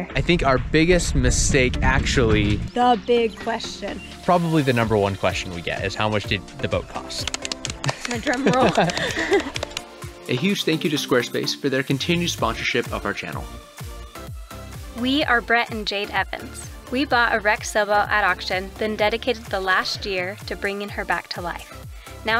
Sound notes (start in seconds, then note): 7.8 both laughing; 8.3 drum rolling